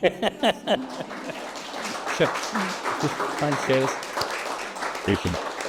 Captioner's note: applause